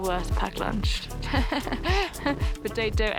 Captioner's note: laughter